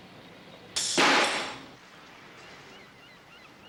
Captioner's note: wrench clanks